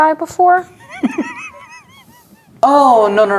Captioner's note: laughing